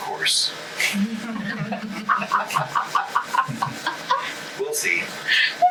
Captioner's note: group laughs